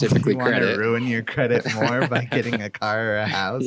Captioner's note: laughs